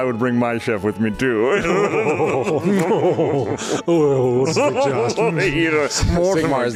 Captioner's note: weird ass laugh